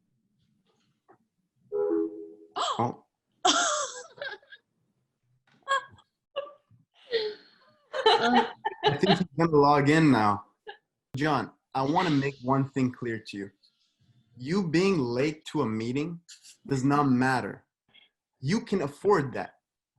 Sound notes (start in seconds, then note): 1.7 call ends; 3.2 gasps; 3.2 laughs